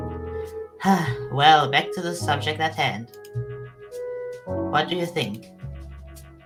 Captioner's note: sigh